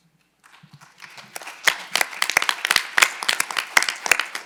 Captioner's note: audience applauding